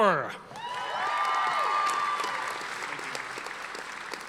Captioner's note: audience applauding